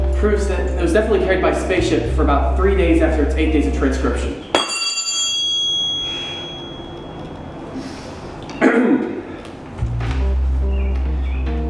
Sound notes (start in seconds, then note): 4.5 metal clang; 8.5 clears throat